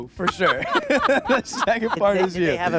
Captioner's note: laughing